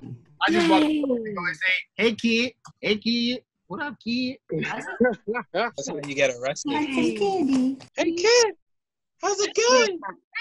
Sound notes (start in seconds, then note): 4.6 laughter